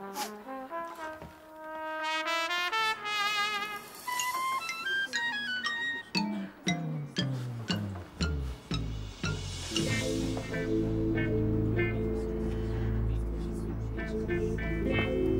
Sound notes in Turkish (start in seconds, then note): 4.8 Sokak gürültüsü